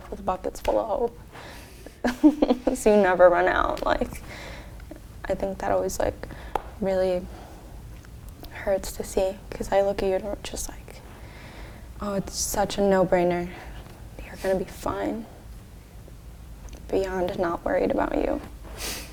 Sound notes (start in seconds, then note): 2.0 laughs